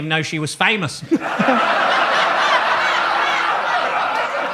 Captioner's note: audience laughs